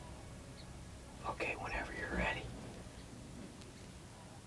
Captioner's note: whispering